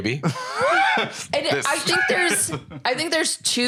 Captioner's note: laughs